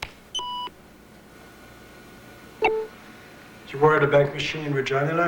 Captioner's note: beeping of computer